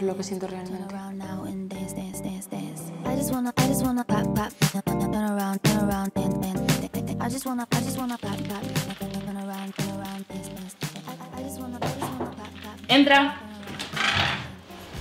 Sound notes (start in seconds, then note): 11.8 door knock